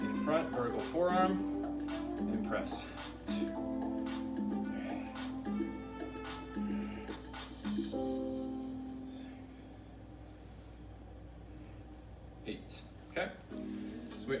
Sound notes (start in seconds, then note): 3.8 upbeat music; 4.6 breaths